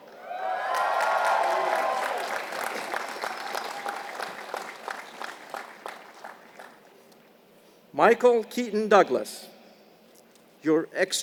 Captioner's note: applause